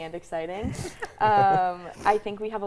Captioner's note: laugh